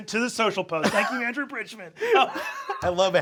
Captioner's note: Sam chuckling; Brennan laughing